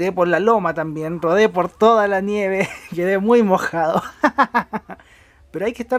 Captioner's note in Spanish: risas